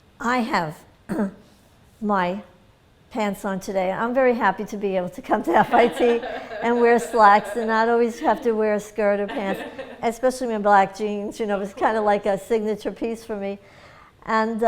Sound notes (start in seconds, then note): 5.6 laughter